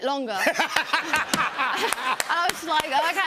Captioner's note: laughter